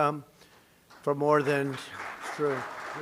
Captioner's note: applause